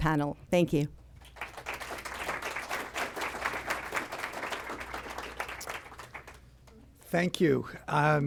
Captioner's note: applause